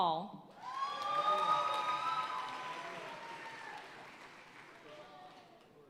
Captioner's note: audience cheering and applauding